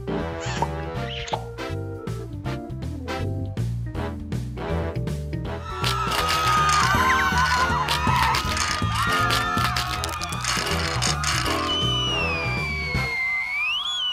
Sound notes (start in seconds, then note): 5.5 screaming, fearful noises; 11.5 long whistle